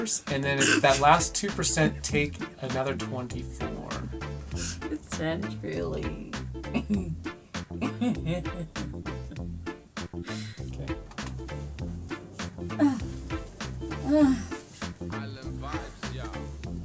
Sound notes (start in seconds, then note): 7.7 laughs; 12.7 groans